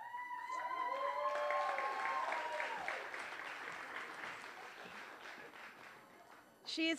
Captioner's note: applause